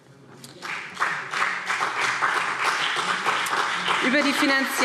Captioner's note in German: Beifall BÜNDNIS 90/DIE GRÜNEN und CDU